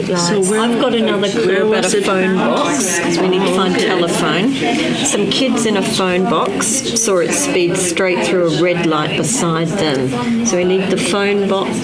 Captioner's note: continuing audience chatter